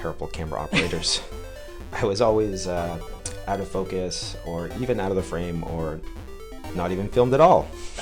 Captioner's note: laughs